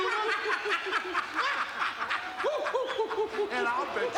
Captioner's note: laugh